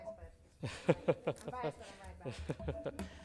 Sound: laughs

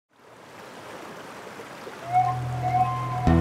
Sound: water rushing

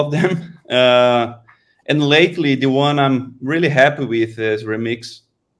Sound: chuckles

